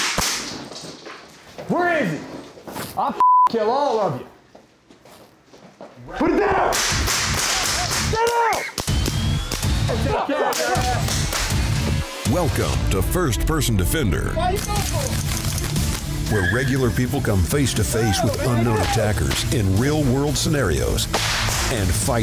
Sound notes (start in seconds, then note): 6.7 gun firing; 9.2 intense music; 10.2 yelling